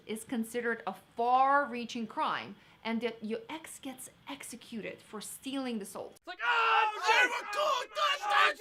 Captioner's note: yelling, crowds cheering